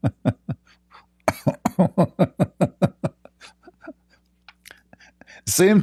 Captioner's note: Ketawa